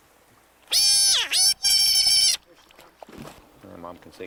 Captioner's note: squealing